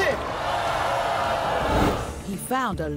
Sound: audience jeering

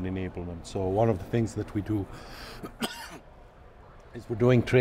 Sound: cough

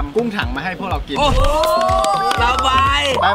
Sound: applauding

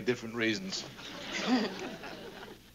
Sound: laughs

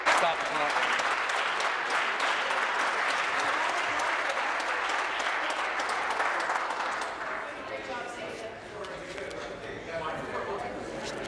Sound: applause

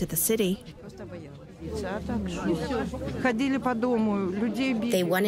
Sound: through translator

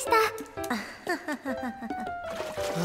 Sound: uneasy laughter

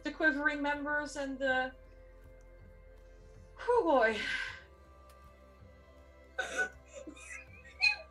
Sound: laugh

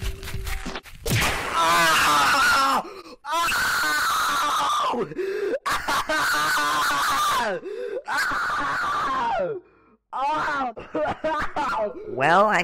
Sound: screaming in pain

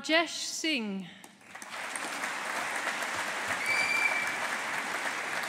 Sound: audience applauding

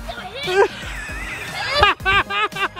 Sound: grunting; laughs

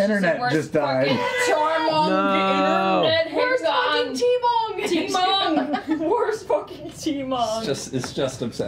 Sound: mispronouncing

